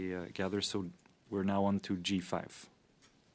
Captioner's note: speaking French